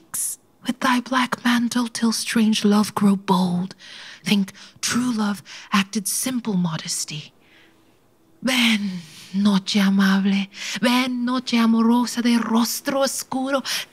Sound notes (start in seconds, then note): none